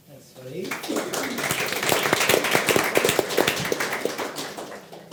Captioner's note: audience applauds